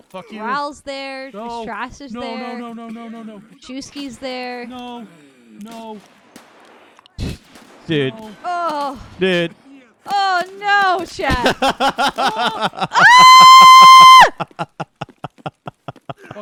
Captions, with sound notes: Riles there, Strass is there, Chewski's there. - No, no. - Dude. - Oh. - Dude. - Oh no, sh--. (laughing) (screaming)